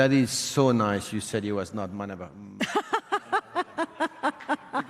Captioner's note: laughs